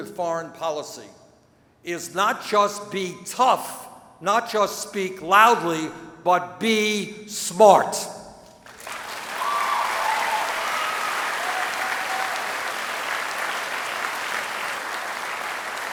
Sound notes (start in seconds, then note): 8.6 applause